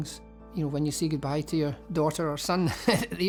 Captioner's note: laughs